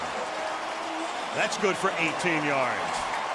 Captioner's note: cheering